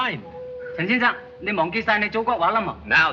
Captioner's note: speaking Chinese